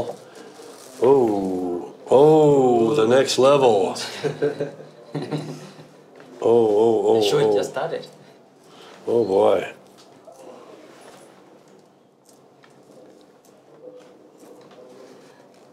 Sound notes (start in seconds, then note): 1.0 collective 'ooh'